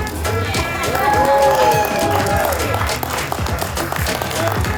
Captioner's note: cheering